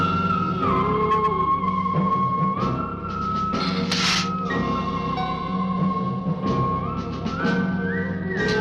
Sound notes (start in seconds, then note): 3.6 lizard hissing